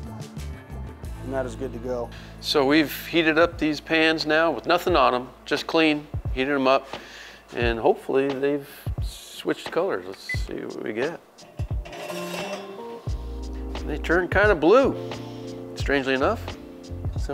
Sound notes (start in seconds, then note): 11.3 metal grinds